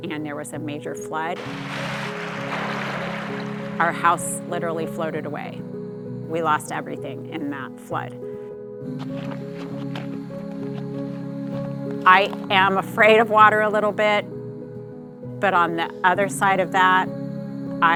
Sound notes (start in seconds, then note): 1.3 water whooshing; 9.0 feet thumping